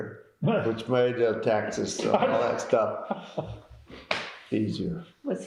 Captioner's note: laughter